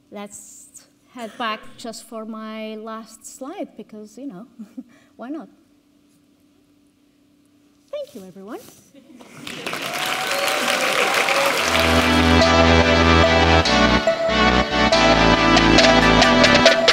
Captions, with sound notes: Let's head back just for my last slide because, you know, (chuckles) why not? Thank you, everyone. (audience cheering) (audience clapping) (upbeat techno music)